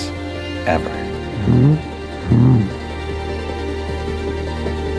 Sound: Bigfoot growls

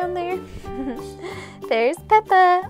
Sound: giggles

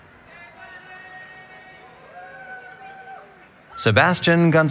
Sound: cheering

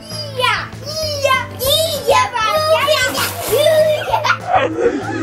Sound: yelling and making noises

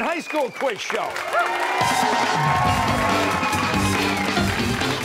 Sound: cheers and applause

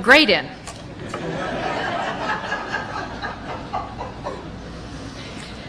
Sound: laughter

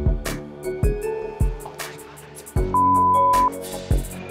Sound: whispers

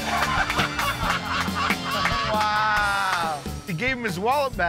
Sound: laughter

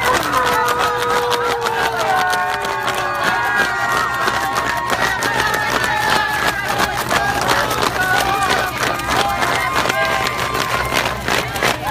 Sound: cheering and fan clapping

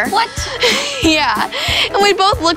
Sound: laughs

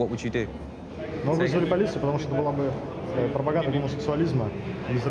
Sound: speaking in foreign language

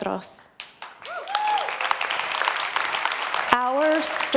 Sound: audience applauds

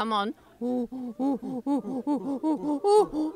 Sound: panting

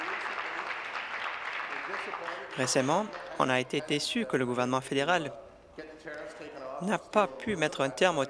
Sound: applause

